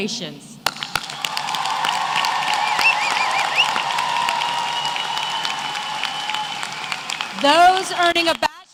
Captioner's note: applause